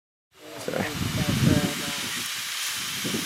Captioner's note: hose running